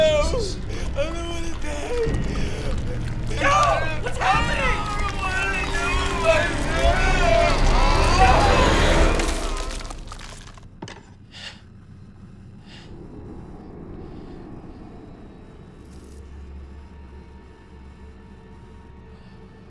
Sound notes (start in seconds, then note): 9.5 crackling; 11.3 Tim gasping